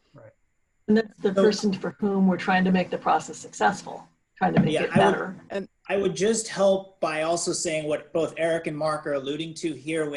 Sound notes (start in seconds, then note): 4.7 faintly speaking